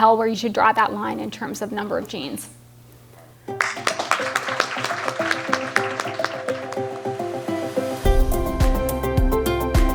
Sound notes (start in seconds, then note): 3.5 applause